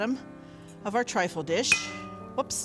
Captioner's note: glass clangs